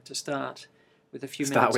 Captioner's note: laughs